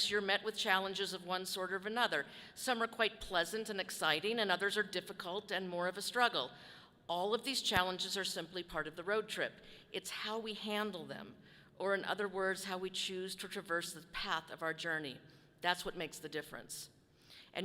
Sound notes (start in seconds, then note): none